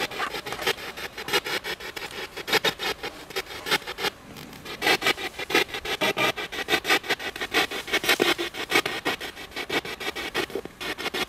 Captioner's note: radio noise from the spirit box